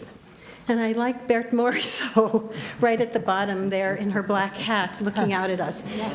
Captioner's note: laughs